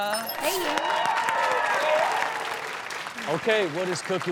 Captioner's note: audience cheers